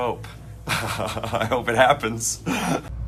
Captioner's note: laughing